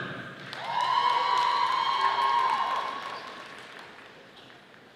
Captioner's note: audience applauding